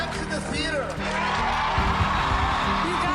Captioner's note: cheering